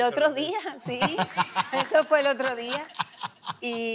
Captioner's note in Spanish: Risas